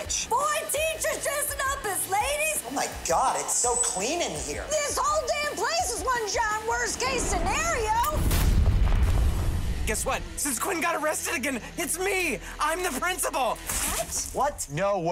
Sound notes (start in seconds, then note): 7.3 explosion